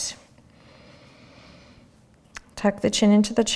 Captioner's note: breathing